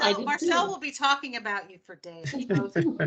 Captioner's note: laughing